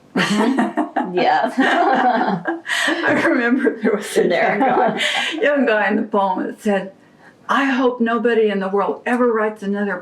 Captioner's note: laughter